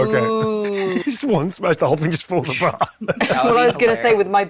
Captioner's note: laughs